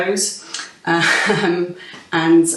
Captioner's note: laughs